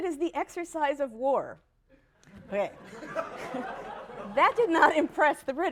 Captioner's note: laughter